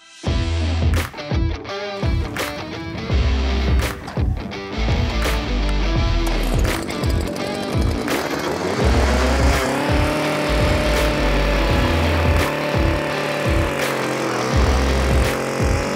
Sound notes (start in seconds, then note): 0.1 rock music; 6.6 motor revs